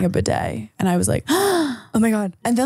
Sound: gasping

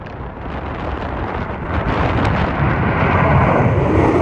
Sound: B-1 Lancer swooshing

